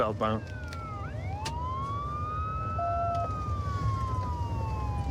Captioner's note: sirens wailing